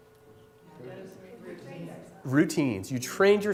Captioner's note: chatter